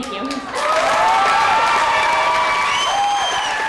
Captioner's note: audience cheers